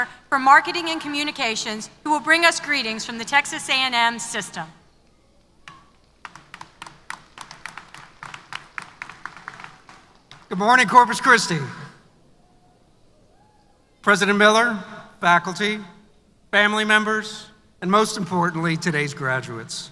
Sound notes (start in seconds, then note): 6.2 applause